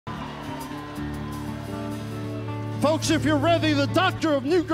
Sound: crowd cheers

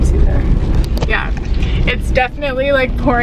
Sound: splattering

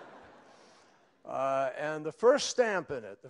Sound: laughter

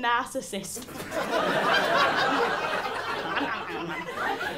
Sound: laughter

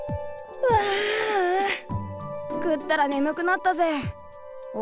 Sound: yawn

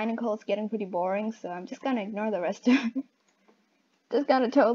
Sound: laughs

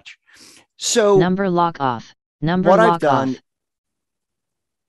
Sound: computer Voice

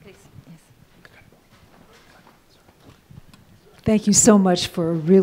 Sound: man whispers off-microphone

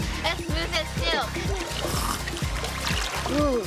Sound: slurps

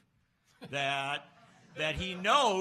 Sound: laughs

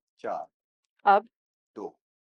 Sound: in Urdu

